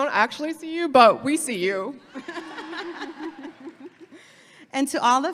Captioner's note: laughing